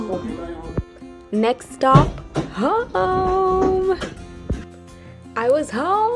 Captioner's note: voice over